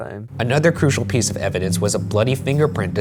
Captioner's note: voiceover